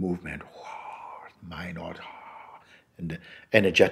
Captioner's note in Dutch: imiteert geluid hevige storm